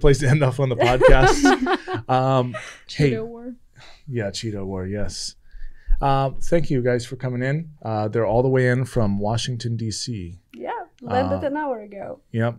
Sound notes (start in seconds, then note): 0.8 laughing